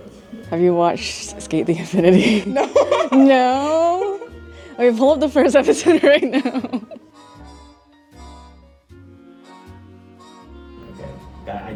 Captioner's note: laughter